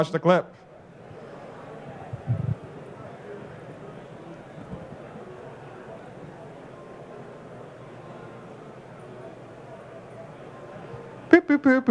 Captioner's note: humming